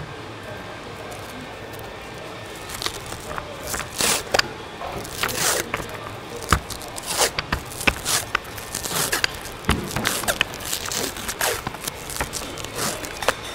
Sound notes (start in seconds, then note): 3.2 tape unwinding